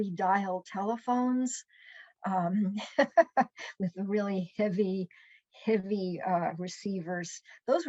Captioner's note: laughs